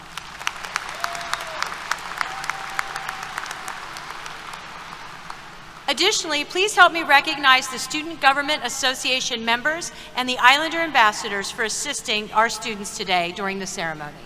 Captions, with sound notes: [ Applause ] Additionally, please help me recognize the Student Government Association members and the Islander ambassadors for assisting our students today during the ceremony.